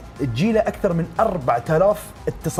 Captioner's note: none